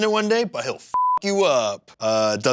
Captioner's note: beep